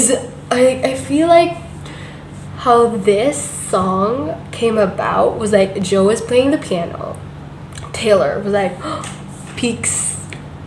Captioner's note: gasp